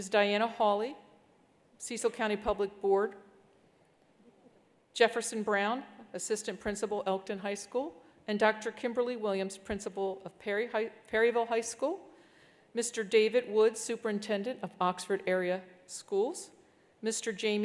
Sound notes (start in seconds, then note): none